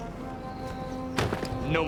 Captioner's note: thud